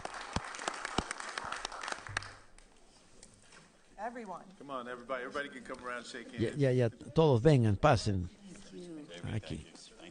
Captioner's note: applause